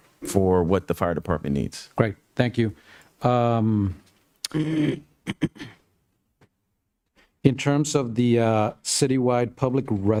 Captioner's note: cough and clears throat